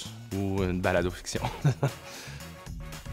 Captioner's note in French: rire